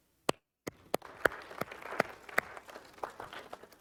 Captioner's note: audience clapping